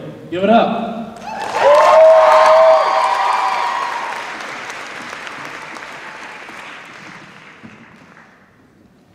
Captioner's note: cheers and applause